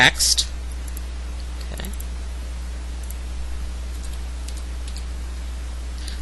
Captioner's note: typing